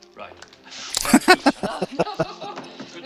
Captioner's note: laughing